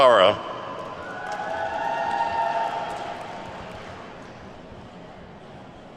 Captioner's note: attendees whooping and clapping